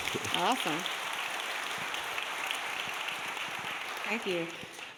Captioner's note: audience clapping